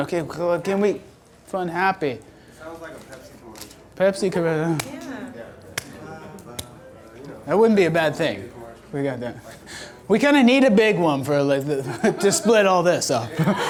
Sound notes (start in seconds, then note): 2.7 voiceover; 5.2 voiceover